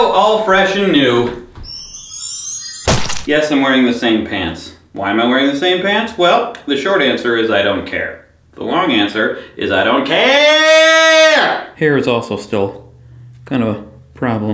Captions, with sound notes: All fresh and new. [glittering sound effect] [splash sound] Yes, I'm wearing the same pants. Why am I wearing the same pants? Well, the short answer is I don't care. The long answer is I don't caaaaaaaaaare! Hair is also still kind of a problem.